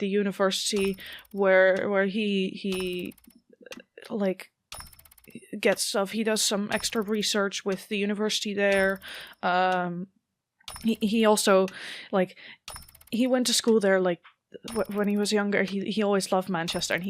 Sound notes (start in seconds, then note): none